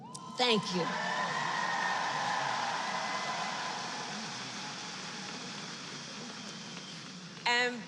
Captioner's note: applause